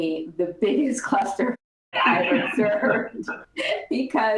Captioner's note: laughter